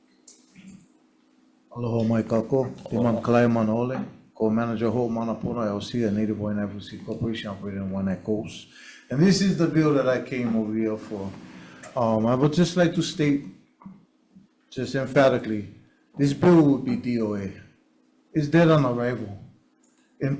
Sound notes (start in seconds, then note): none